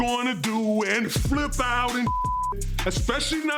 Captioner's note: beep